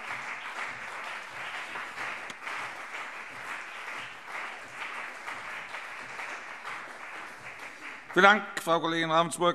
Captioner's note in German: Beifall CDU und BÜNDNIS 90/DIE GRÜNEN